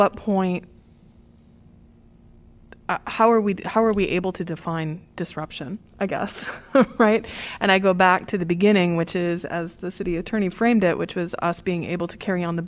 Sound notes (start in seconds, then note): 6.3 laughter